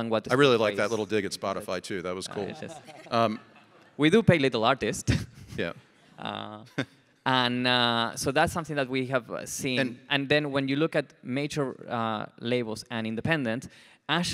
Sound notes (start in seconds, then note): 2.2 group laughs; 5.1 chuckles